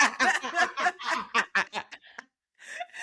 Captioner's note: laughing